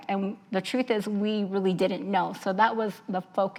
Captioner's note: none